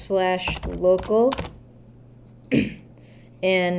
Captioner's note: clears throat